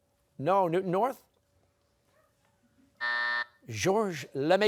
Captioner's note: buzzer